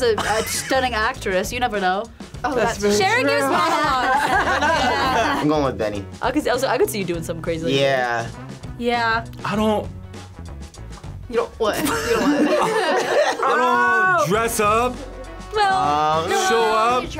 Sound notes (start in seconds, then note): 3.2 group laughs